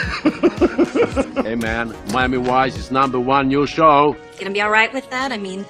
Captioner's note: laughs